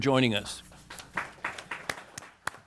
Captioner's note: applause